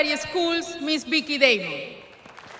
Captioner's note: applause